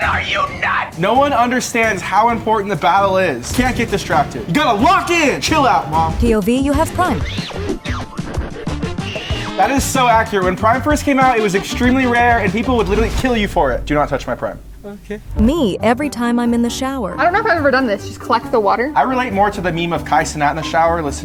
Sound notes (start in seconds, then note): 9.6 character screaming